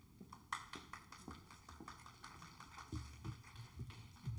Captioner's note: audience applauds